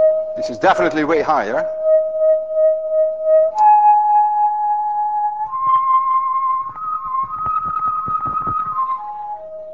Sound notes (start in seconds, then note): 0.0 tube hums higher tone; 2.4 tube hums even higher; 4.4 tube hums higher, then starts going back down; 9.4 tube returns to first tone